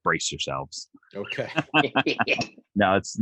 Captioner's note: laughs